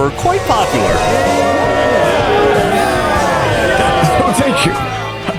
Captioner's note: cheering